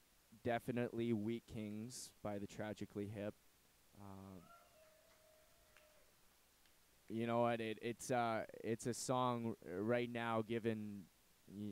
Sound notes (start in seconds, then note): 4.7 applause